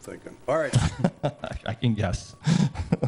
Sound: laughs

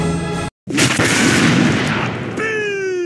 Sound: explosion

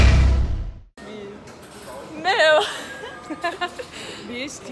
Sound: laughs

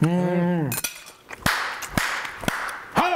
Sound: clap, clap, clap

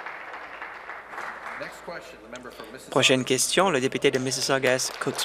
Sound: applause

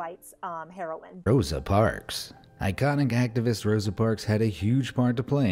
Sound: voice-over

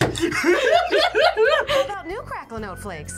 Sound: both laugh

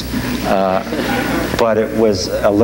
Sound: audience laughs

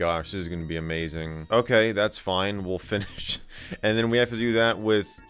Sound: breaks off laughing

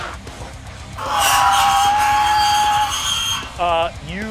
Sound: screeching

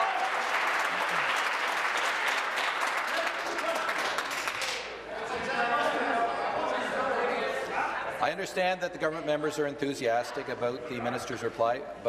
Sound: applause

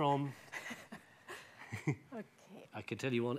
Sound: laughing

